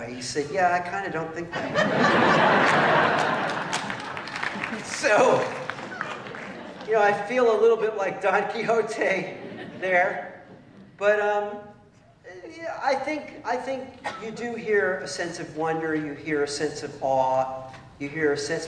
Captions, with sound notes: He said, yeah. I kind of don't think that way. [LAUGHTER] So I feel a little bit like Don Quixote there. But I think you do hear a sense of wonder. You hear a sense of awe.